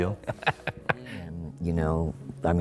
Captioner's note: chuckles